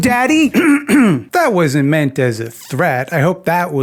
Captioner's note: clears throat